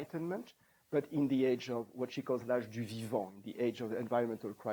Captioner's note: non-english